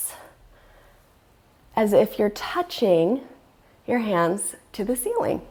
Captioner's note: deep breathing sounds